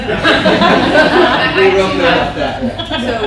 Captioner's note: audience laughter